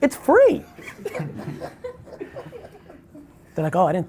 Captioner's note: laughs